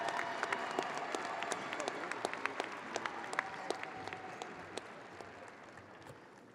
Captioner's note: audience applauding and cheering